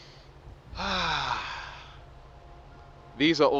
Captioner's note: sighs